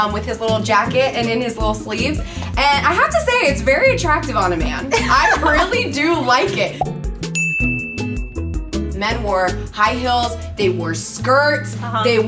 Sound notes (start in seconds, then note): 4.8 laughter; 7.3 dings